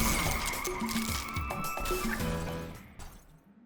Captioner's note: tyres screech; glass shatters